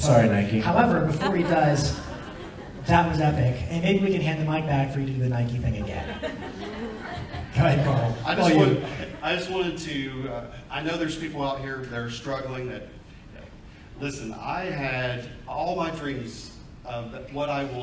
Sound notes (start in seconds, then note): 5.9 audience laughs